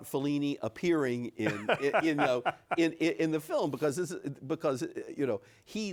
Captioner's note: laughs